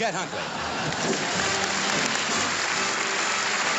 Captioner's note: applause